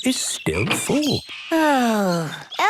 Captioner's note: sighs